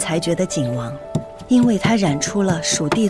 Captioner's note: grinding and mixing